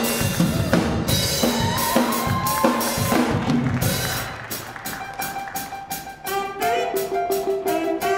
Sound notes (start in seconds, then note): 1.8 applause, cheering; 1.8 lively jazz music; 4.8 jazzy saxophone solo